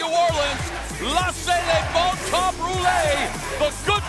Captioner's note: speaking in foreign language